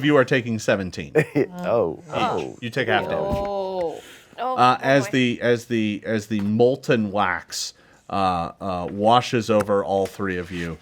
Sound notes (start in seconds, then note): 1.2 laughs